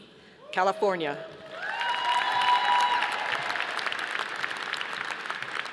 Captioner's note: audience applauding